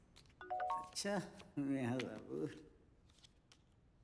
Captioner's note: Phone chimes